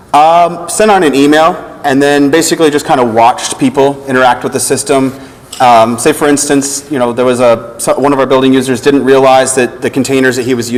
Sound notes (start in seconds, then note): none